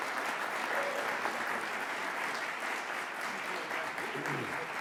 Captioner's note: audience applauds